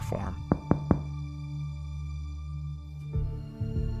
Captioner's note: person knocks; tense music continues